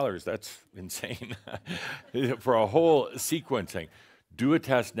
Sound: Adamus chuckles

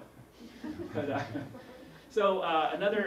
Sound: laugh; laughs

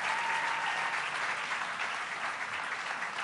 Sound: applause

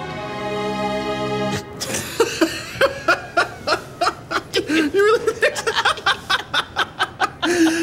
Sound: laughing

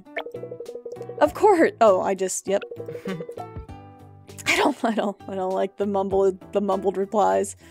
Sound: laughs

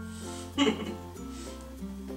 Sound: chuckes

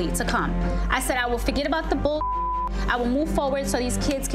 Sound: beep

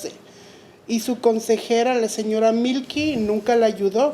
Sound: speaking Spanish

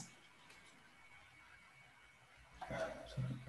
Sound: mouse clicking

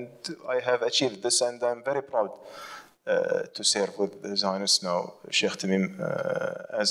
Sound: foreign language

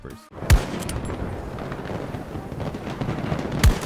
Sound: guns blasting

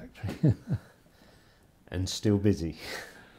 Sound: chuckles

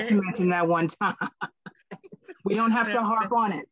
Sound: laughs

